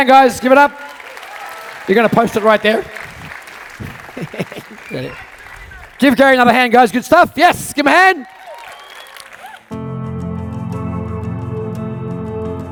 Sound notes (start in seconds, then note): 2.3 audience clapping; 4.7 laughing; 9.7 mellow music